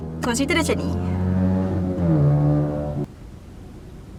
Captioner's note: suddenly a loud motorcycle sounds appears